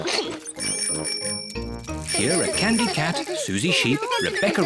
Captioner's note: giggles; bicycle bells tinkle